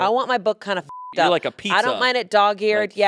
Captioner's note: beep